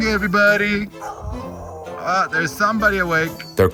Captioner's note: A dog howls